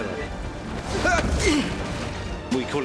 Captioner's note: grunts